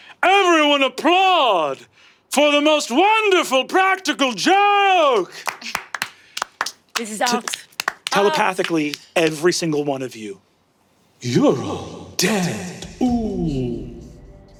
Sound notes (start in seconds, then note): 5.1 cast clapping awkwardly; 14.3 sinister foreboding music